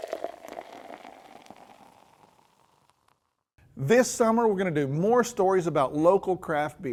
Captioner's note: sound of pouring